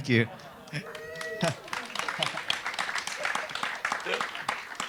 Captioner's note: laughs; audience applause